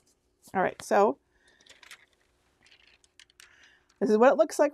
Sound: paper crinkling

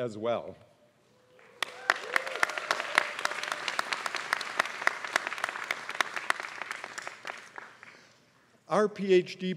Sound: applause

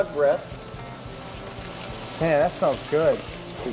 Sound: sizzling sound

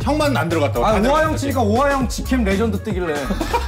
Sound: laughs

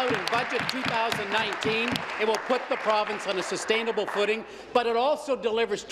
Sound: applause

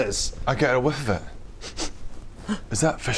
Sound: sniff sniff

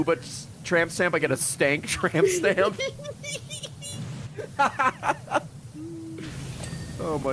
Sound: laughs

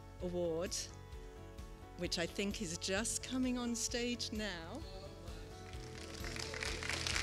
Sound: applause

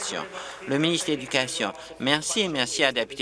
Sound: applause

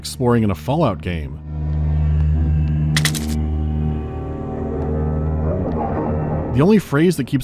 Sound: uneven, resonating droning

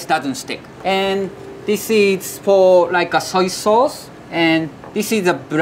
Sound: text chiming

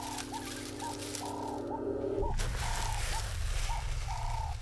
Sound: birds chirping

